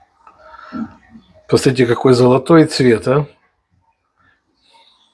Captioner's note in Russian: фыркает